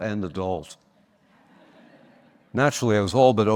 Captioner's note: audience laughing